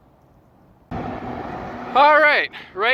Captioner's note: sound of Traffic